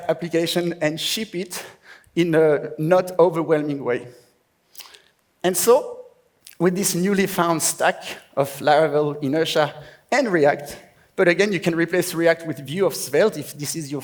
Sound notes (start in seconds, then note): none